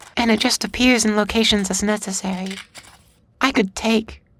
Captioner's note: none